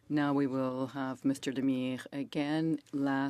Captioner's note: speaking French